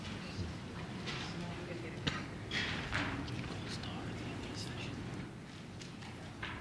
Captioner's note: whispering